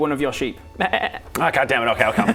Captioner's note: baaaa